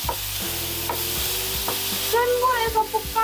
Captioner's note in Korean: 지글지글 거리는 소리가 크네요